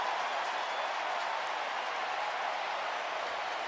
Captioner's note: crowd cheering